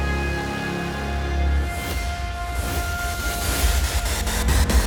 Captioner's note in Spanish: Ruido del vehículo